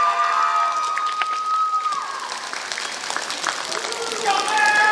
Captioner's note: applause